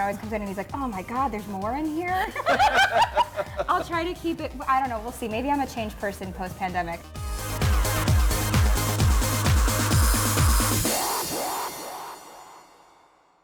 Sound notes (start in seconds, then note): 2.1 laughs; 7.4 upbeat music